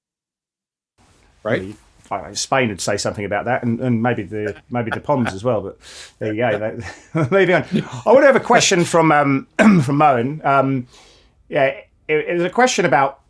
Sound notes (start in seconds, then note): 7.7 laughs